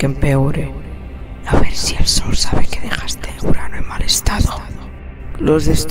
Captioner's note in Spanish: Susurrando